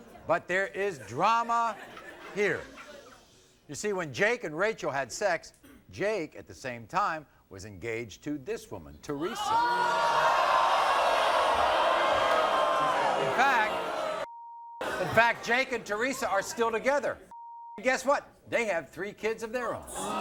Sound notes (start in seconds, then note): 9.2 audience boos; 14.2 beep; 17.3 beep; 20.0 audience screams